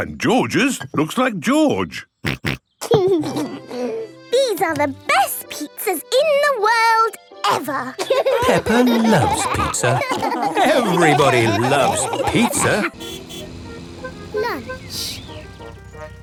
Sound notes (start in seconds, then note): 12.9 horn honks